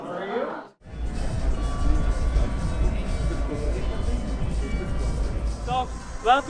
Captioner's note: sounds of festival in the background